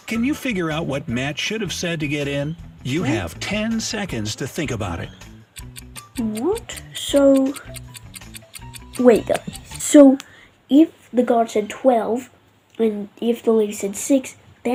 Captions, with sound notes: Can you figure out what Matt should have said to get in? You have 10 seconds to think about it. (clock ticking) - What? So... wait. So if the guard said twelve, then if the lady said six,